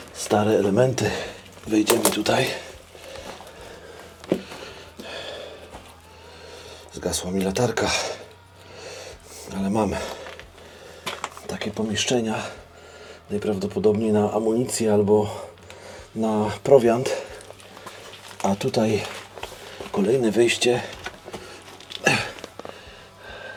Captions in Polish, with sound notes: Stare elementy. Wejdziemy tutaj. [dyszenie][westchnienie] Zgasła mi latarka, ale mam takie pomieszczenia najprawdopodobniej na amunicję albo na prowiant. A tutaj kolejne wejście.